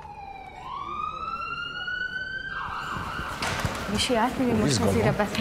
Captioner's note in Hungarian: Sziréna hangja hallatszik